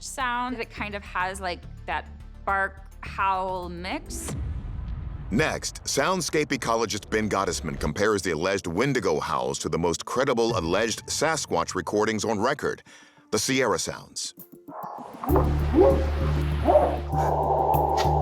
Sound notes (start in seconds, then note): 15.7 light whooping; 16.6 eerie sound